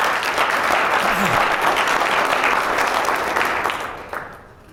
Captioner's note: applause